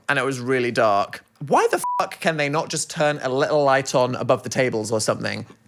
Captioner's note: beep